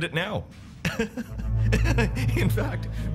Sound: laughing

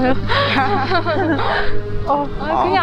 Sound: laughing

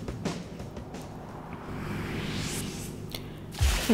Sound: Wii U Menu Start Up plays; vhooooooossst!

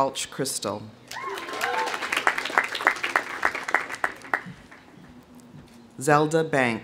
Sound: audience cheering; audience applauding

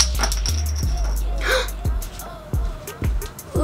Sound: intense music; gasps

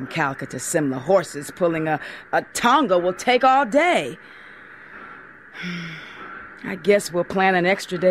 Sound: sigh

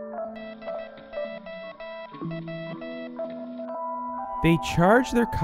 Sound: morse code

